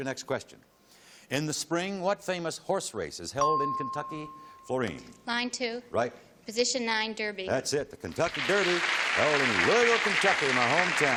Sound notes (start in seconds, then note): 3.4 ping